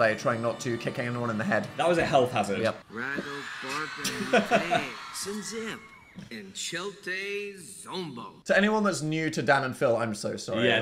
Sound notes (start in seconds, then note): 3.5 Dil speaking foreign language